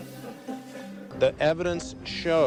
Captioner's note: laughter